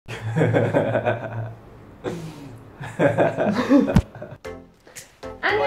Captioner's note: laughs